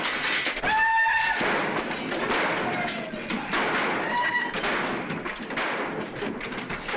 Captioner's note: whooping - gunshots